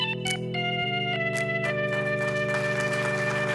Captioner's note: applause